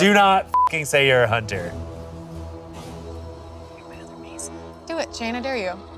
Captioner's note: beep